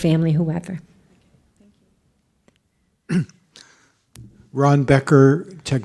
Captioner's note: voiceover